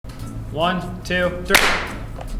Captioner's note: clap